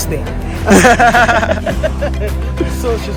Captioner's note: laughter